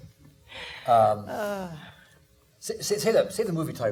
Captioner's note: laughing; exhaling